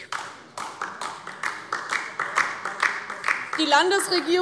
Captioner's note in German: Beifall DIE LINKE